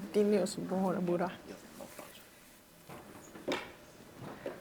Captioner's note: speaks in Turkish